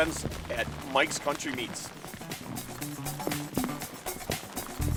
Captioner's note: raindrops